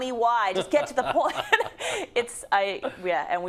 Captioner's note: laugh